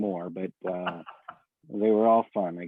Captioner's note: laughs